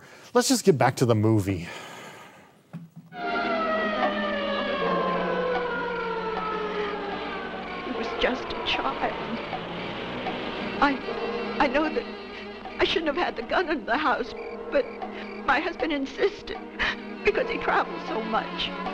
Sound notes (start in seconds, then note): 3.1 sirens wailing